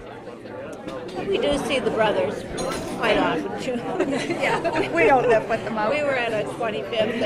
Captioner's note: laughs